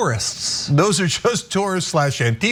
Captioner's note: laugh